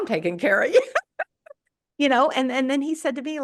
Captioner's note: laughs